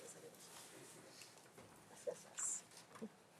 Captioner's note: none